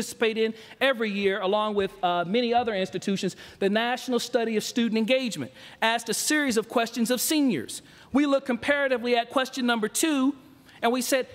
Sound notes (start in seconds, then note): none